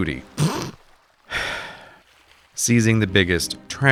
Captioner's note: snickers; sighs deeply